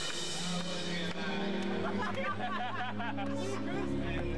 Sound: laughter; laughter

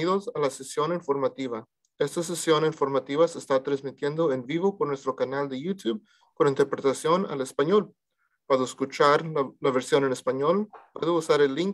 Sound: speaking in Spanish

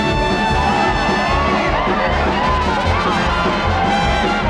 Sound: audience cheers

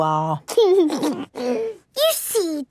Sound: giggles

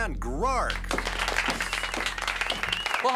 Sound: applause

